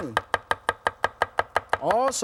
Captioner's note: knife chopping